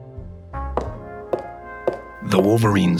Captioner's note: footsteps